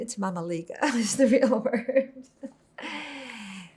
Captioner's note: laughing